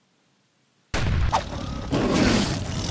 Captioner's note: explosion; growling